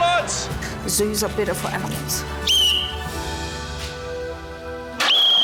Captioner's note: whistle trills